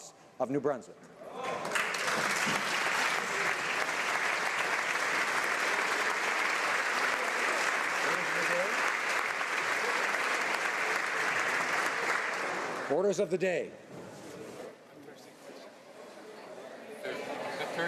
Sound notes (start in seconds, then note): 4.7 applause